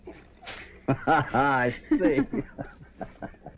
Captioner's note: hoppy and mary chuckles